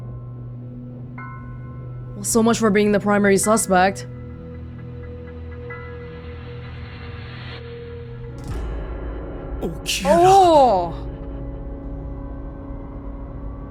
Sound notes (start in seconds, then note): 9.7 groans